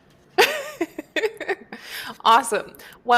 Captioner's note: laughs